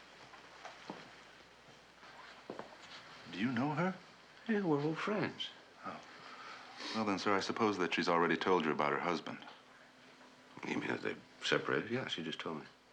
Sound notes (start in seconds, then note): none